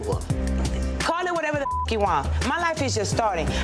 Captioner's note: beep